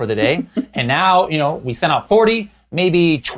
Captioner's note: chuckles